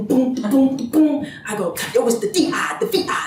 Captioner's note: beatboxing